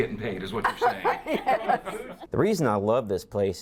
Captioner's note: laughs